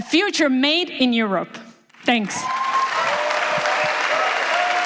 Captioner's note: applause